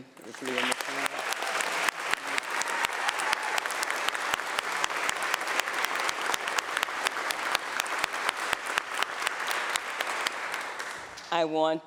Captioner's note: applause